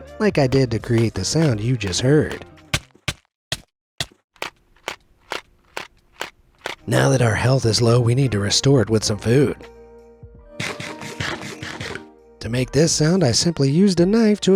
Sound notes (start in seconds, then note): 2.7 game thuds; 4.3 matchbox rattles, thuds; 10.5 game crunches